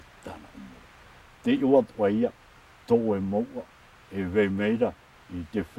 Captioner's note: speaking Tahitian language